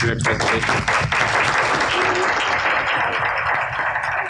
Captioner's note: applause